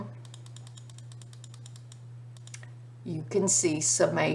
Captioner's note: mouse clicking